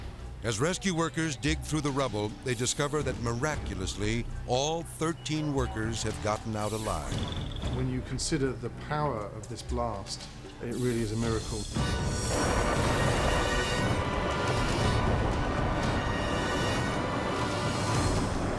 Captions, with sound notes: As rescue workers dig through the rubble, they discover that miraculously all 13 workers have gotten out alive. - When you consider the power of this blast, it really is a miracle. (explosions popping) (menacing music)